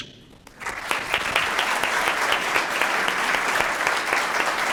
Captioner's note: applause